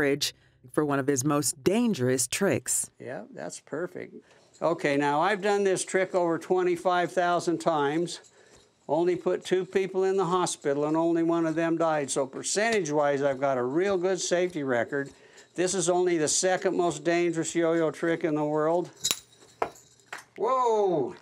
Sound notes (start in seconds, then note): 18.9 coin clinking